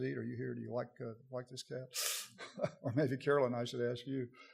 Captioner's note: audience laughter